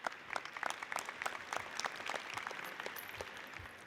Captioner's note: audience cheers and applauds; audience applauds